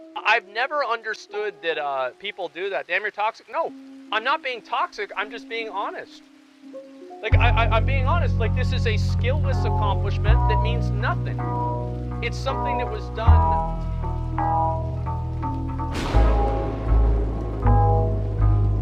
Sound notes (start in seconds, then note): 15.9 lightning Strikes Outside